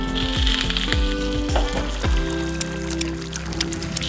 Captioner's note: pan sizzling